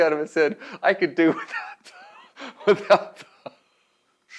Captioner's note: laughs